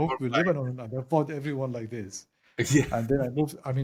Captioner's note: laugh